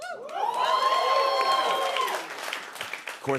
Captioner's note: cheers and applause